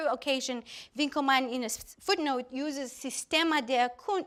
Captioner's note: German speaking